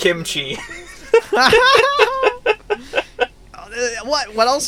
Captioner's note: laugh